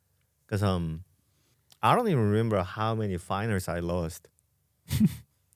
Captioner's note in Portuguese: risos